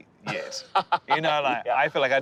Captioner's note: laughing